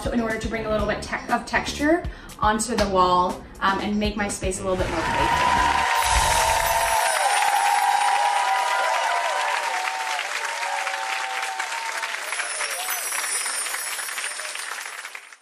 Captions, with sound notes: in order to bring a little bit of texture onto the wall and make my space a little bit more playful. (crowd cheers) (chimes ring) (chimes ring)